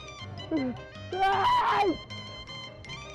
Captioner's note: screaming